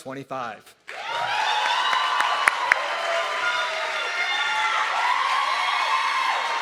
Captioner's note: audience clapping and cheering